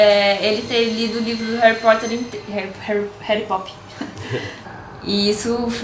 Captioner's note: laugh